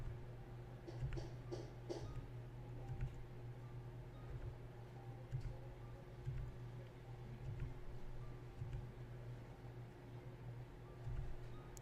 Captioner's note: clicky-tappies